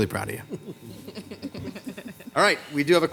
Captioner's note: Council Members laughing